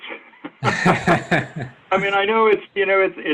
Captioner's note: both laugh